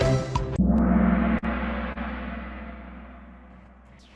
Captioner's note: gong